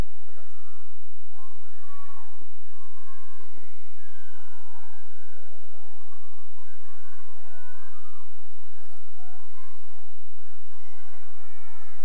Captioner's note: cheering